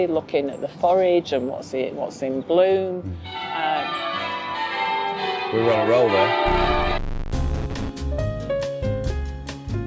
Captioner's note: cathedral Bells